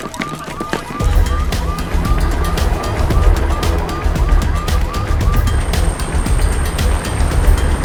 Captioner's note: helicopter thrums; dramatic music